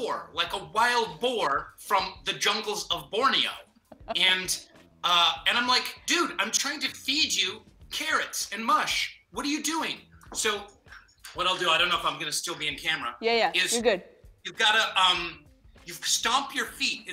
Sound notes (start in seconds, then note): 3.8 laughs